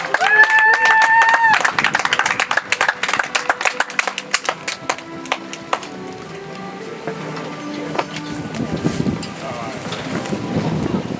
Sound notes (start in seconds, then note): 3.4 audience applauds; 8.6 soft music